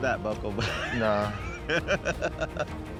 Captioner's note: laughing